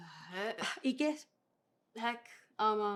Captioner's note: Spanish